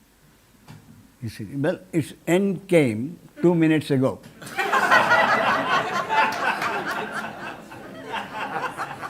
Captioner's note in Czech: smích